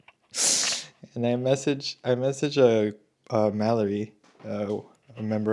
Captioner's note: snorts